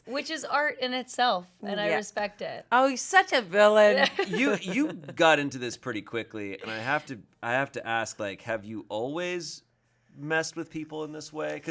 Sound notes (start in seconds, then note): 3.9 laugh